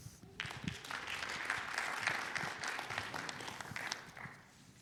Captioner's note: audience applauding